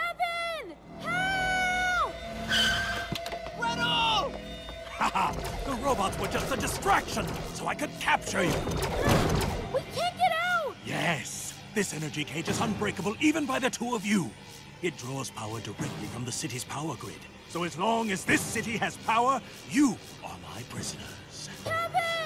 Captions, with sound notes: Kevin! Help! (TIRES SCREECHING) Gretel! (LAUGHS) The robots were just a distraction so I could capture you. We can't get out. Yes. This energy cage is unbreakable even by the two of you. It draws power directly from the city's power grid. So as long as this city has power, you are my prisoners.